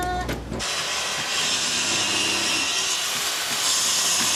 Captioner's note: saw noise